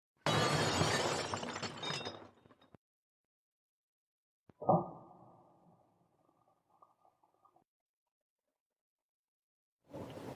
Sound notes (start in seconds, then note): 0.2 glass shattering; 4.4 thud